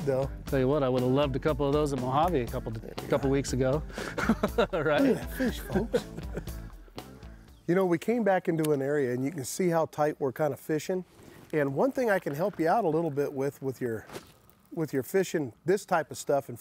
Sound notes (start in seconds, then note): 3.9 laughs